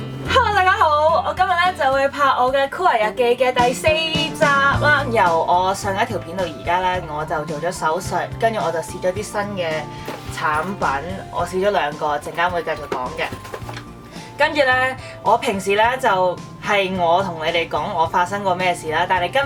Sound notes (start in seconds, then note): 9.8 water floss